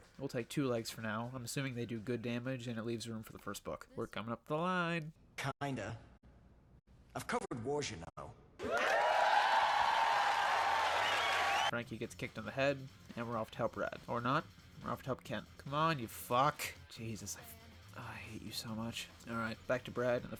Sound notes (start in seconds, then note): 5.5 thunderous Applause